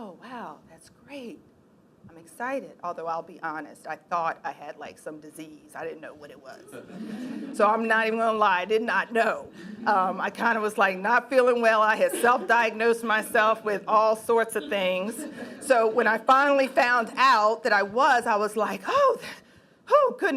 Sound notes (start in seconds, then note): 6.7 laughing